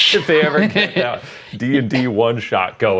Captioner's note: both laughing